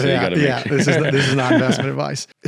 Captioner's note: laughing